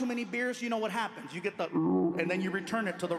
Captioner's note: mimics gurgling